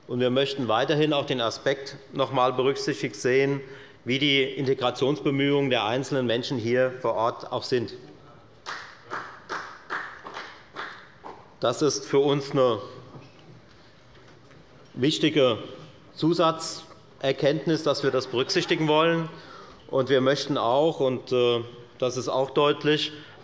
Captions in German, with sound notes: Wir möchten weiterhin auch den Aspekt berücksichtigt sehen, wie die Integrationsbemühungen der einzelnen Menschen hier vor Ort sind. [Beifall bei der FDP] Es ist für uns ein wichtiges Zusatzkriterium, dass wir das berücksichtigen wollen. Wir möchten auch - das wird auch in unserem Antrag deutlich -,